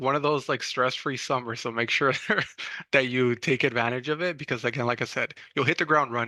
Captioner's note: chuckles